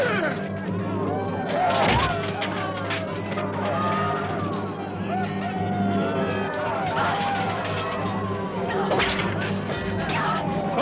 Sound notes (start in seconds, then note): 5.8 men yelling